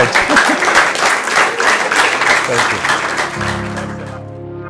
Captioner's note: applause